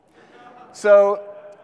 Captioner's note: audience laughs